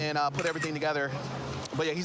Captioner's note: camera app clicks